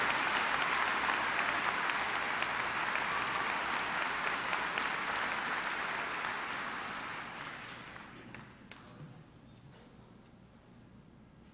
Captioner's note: applause